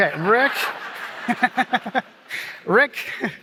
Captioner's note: laughter